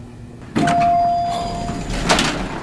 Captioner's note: elevator dings